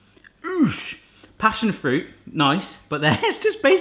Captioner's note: grunting